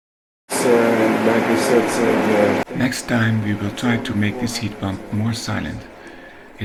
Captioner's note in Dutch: Geluid van de ventilator van de warmtepomp